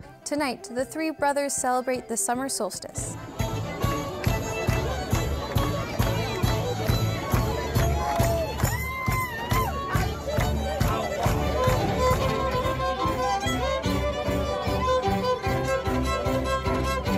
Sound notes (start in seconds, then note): 3.3 people cheer; 3.3 upbeat folk music; 13.1 upbeat folk music continues